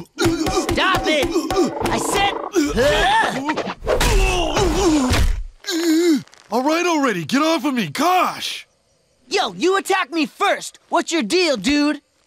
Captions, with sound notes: Stop it! I said ha! [groaning] All right, already, get off of me! Gosh! Yo, you attacked me first! What's your deal, dude?